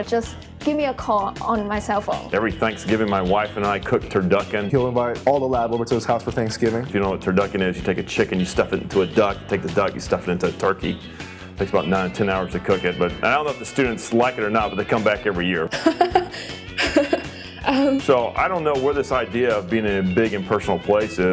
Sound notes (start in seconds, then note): 15.7 laughs